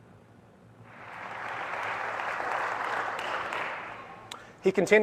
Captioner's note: applause